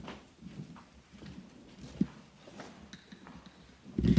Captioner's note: footsteps thudding